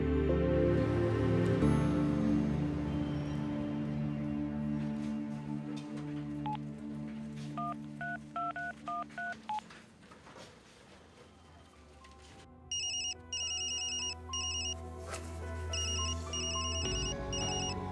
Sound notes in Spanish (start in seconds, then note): 15.6 Suena el teléfono